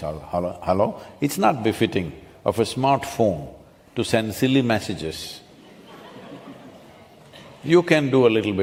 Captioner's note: few laugh